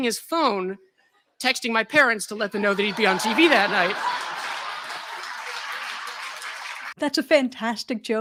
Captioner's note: laughter